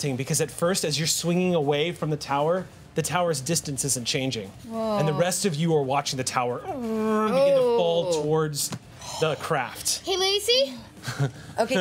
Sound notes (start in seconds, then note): 7.2 imitating creaking; 11.0 chuckling